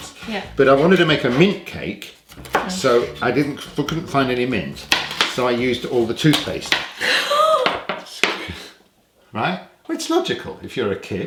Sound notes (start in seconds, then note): 6.6 gasping